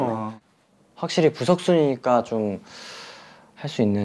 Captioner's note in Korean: 스읍